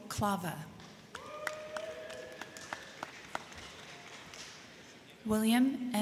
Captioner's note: crowd clapping; crowd cheering